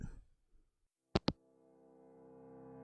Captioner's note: hangup